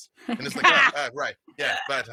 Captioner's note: they all laughs